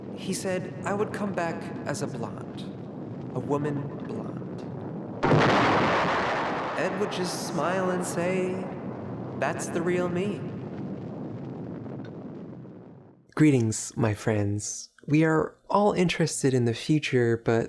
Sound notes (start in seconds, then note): 5.4 thunder roaring